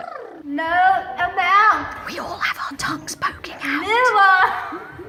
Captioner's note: text recited with tongues stuck out. 'No Amount'. 'Zero'; giggles